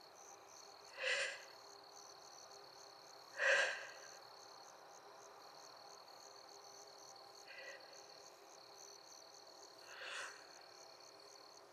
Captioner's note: breathing sounds